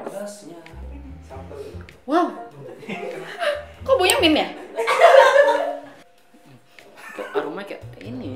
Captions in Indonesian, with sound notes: Wow! Kok baunya mint ya? *evil laugh*